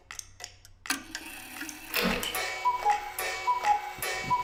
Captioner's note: clock cuckooing